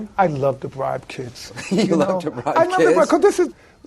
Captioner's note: laughing